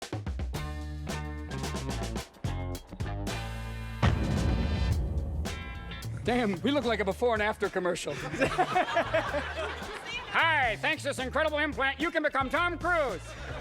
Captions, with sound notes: (bright music) - Damn. We look like a before and after commercial. (crowd laughs) Hi. Thanks to this incredible implant, you can become Tom Cruise.